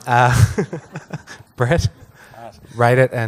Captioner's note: laughs